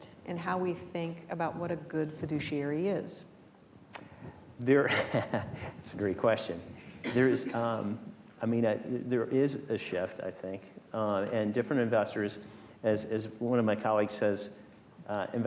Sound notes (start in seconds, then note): 4.8 chuckles